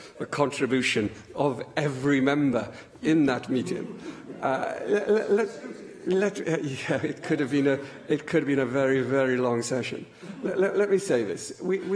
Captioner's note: laughter